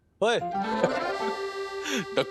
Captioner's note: chuckles